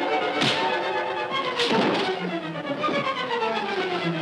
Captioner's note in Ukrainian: бійка, тупіт